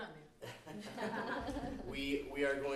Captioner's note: background laughter